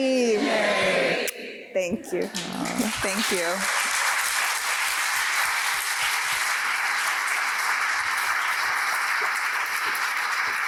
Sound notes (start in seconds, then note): 4.0 applause